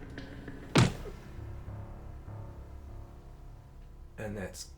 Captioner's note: punch thuds